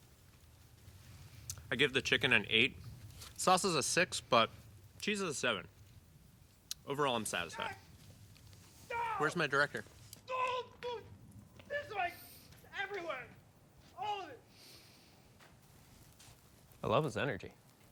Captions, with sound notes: I give the chicken an 8. Sauce is a 6, but cheese is a 7. Overall, I'm satisfied. [scott screaming] Where's my director? [screaming] This way is everywhere! All of it! I love his energy.